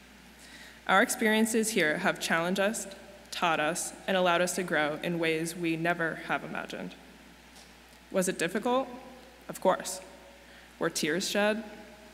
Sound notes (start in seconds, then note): none